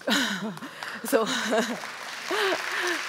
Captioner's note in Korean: 박수